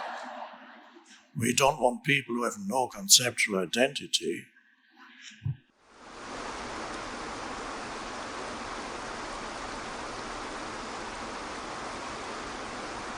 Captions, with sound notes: (crowd laughs) We don't want people who have no conceptual identity. (waterfall rushes)